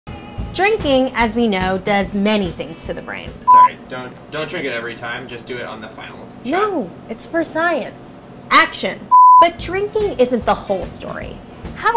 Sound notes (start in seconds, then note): 3.4 electronic beep; 9.1 electronic beep